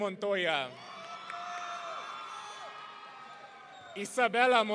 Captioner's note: audience cheering